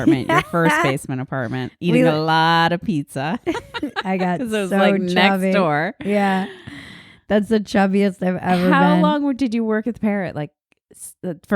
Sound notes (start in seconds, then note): 3.4 laughing